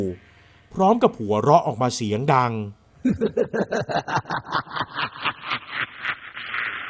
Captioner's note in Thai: เสียงหัวเราะ